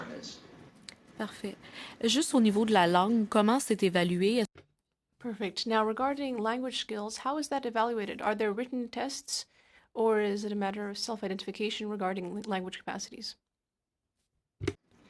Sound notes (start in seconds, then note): 10.4 speaking in French